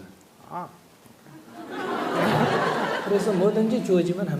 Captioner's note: audience Laughter